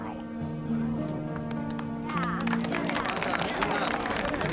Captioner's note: crowd applauds